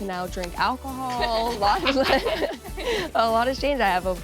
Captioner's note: laughs